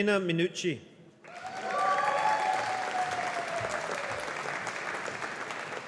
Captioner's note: audience applauding